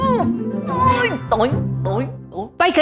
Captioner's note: doink doink doink